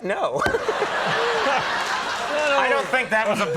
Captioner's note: audience laughing